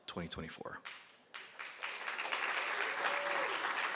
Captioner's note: applause